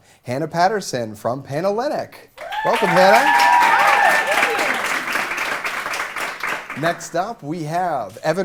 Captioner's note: cheers and Applause